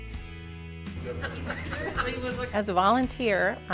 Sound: laughter

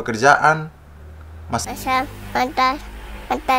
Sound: toddler voice

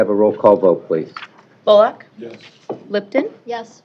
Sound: none

